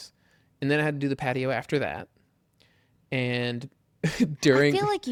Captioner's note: laughs